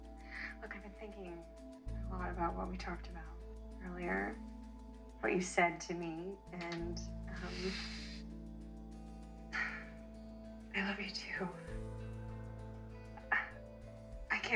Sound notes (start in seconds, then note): 9.5 sighs; 13.3 rebecca chuckles